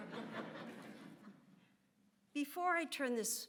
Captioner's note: audience laughs